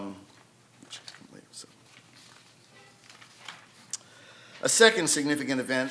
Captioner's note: faintly speaking